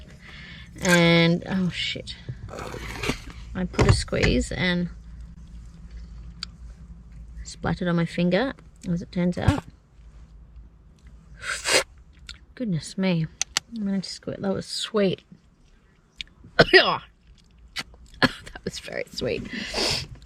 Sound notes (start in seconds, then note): 0.5 mixture squirts into drink bottle; 2.5 air gurgles back into liquid; 5.1 lips smack on hand; 10.5 slurps loudly on hand; 16.3 coughs and exclaims with distaste; 19.7 sniffs